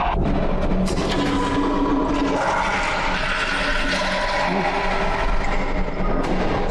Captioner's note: flushing